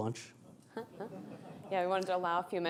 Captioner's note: laughing